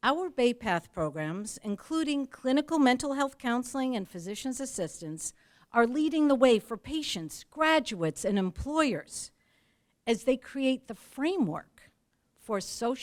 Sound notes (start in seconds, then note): none